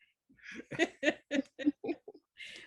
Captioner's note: laughter